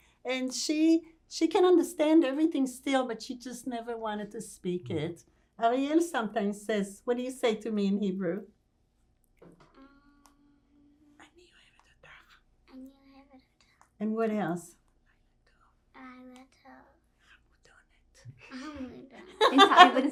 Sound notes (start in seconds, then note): 11.2 whispering; 13.5 hebrew; 15.0 whispering; 17.0 hebrew; 17.6 whispering; 19.5 hebrew